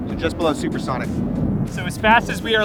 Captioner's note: aircraft humming